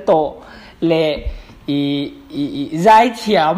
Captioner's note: stutters